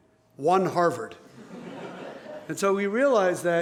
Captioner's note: laughter